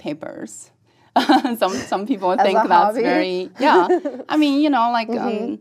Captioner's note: laugh